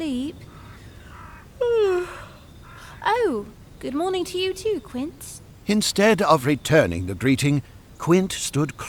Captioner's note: sigh; yawn